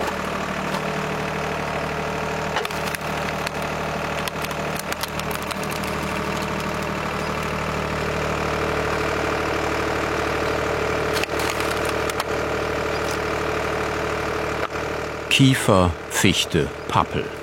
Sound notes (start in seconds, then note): 2.5 crackling; 8.2 engine hum